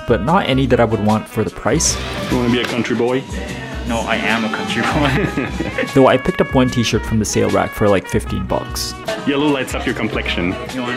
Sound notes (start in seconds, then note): 4.4 laughing